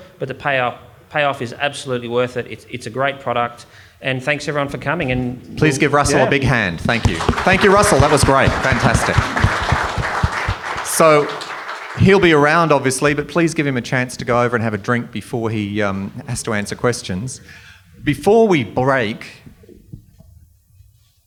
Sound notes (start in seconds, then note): 6.0 audience applauds